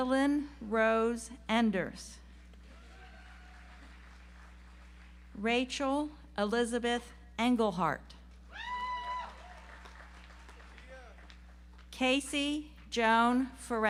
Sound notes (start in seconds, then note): 2.7 audience applauds; 9.0 audience applauds